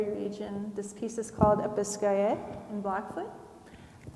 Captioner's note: speaks in foreign language